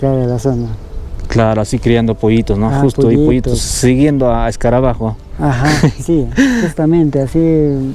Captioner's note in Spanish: risas